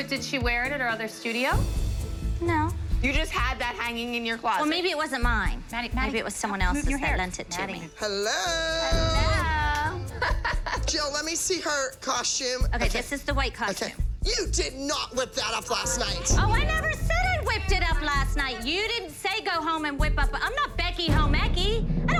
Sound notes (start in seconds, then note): 1.5 dramatic music; 9.9 laughs